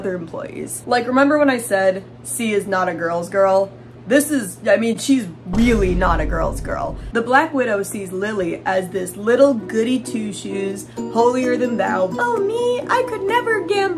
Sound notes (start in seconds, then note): 5.5 boom; 11.5 mocking voice